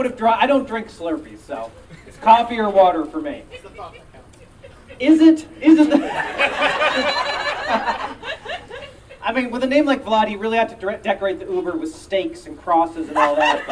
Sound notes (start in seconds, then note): 5.6 audience Laughing